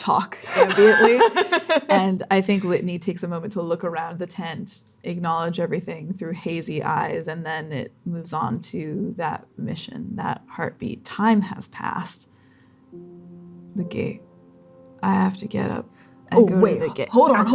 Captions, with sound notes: talk ambiently. talk ambiently. - [laughing] And I think Litany takes a moment to look around the tent, acknowledge everything through hazy eyes, and then it moves on to that mission, that heartbeat. Time has passed. The gate. I have to get up and go to the gate— I have to get up and go to the gate— - Oh, wait. Hold on, hold on, hold on.